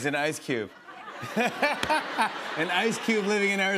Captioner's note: laughter